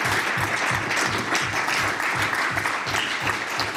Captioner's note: applause